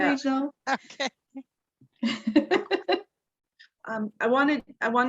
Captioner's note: chuckle